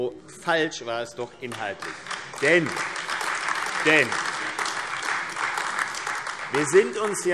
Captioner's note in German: Beifall AfD und vereinzelt Freie Demokraten